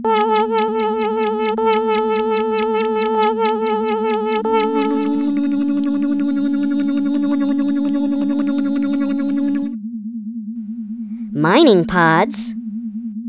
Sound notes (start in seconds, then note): 5.2 motor slowing down